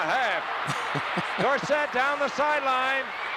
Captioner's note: laughs